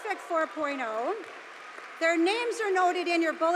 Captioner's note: audience applauding